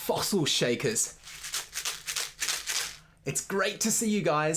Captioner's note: shaker rattles